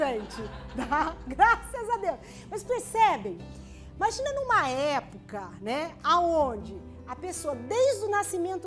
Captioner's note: laughter